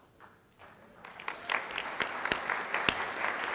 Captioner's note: applause